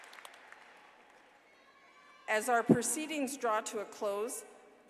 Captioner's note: applause